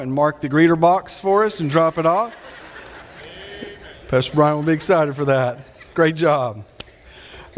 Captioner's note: audience laughing